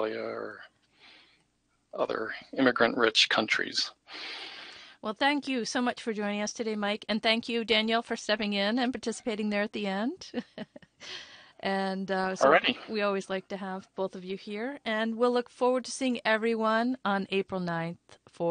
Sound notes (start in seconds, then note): 12.4 laughs